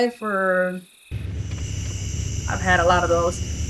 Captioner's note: engine humming